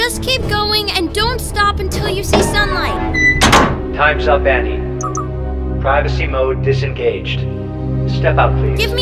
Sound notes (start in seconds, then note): 3.1 door latches; 5.0 beeps